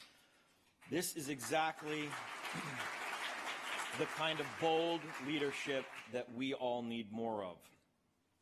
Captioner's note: applause